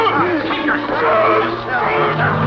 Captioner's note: yelling